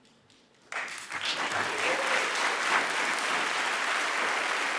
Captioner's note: audience applauding